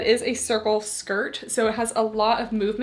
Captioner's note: none